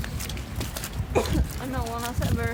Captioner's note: cough